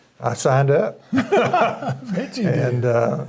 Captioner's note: both laughing